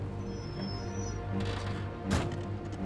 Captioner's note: brakes squeal